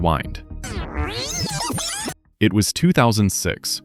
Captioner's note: rewind